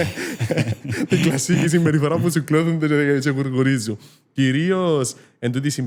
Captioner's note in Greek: γέλιο